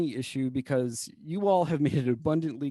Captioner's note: laughter